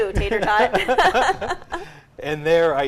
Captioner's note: laughing together